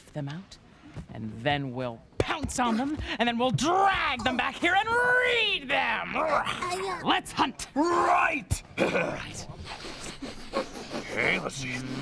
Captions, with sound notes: AND THEN WE'LL POUNCE ON THEM! AND THEN WE'LL DRAG THEM BACK HERE AND READ THEM! ( growls ) LET'S HUNT! RIGHT! ( all sniffing ) OKAY, LET'S SEE.